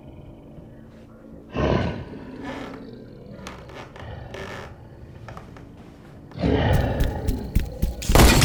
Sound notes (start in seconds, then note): 3.2 floorboards creaking; 6.4 Brad growls; 6.7 feet thudding; 7.9 gun firing; 8.2 gun snapping